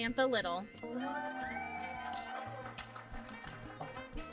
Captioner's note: applause